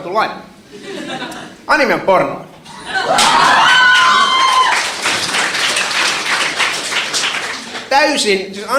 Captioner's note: shouting, applauds